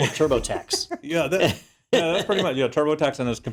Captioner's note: laugh